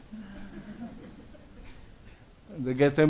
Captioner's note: audience laughs